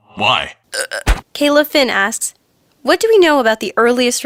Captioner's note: hurrk!